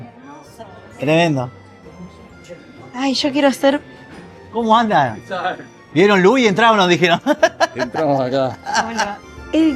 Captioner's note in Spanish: risas